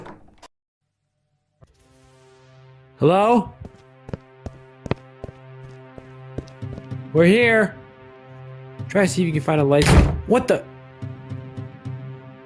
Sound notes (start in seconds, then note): 0.2 door rattles; 6.3 footsteps patter